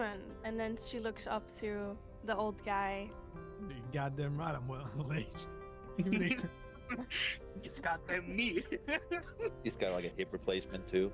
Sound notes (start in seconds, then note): 6.0 laughs; 8.4 laughs